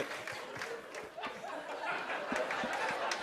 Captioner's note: laughter